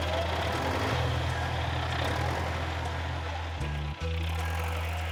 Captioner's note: engine rumbling